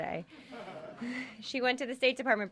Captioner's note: laughter